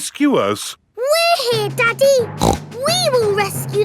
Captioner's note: snorts